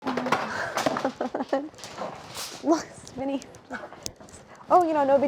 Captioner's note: Claire chuckles